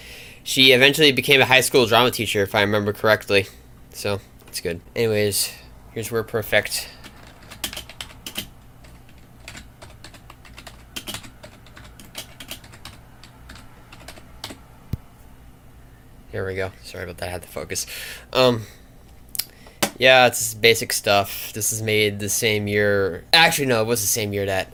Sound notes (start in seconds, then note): 7.2 badly-picked-up typing sounds